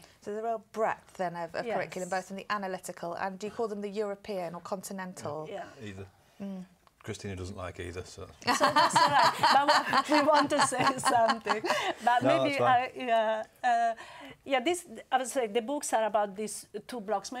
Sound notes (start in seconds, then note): 8.5 laugh